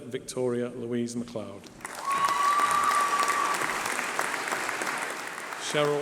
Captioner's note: applause